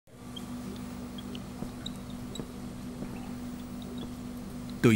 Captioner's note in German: Laborgeräusche